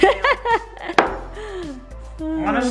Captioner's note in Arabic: يضحك